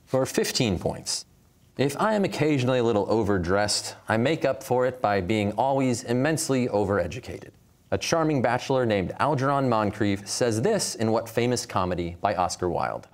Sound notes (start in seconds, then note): none